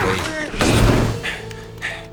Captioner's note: panting